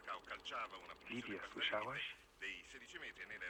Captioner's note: speaks in polish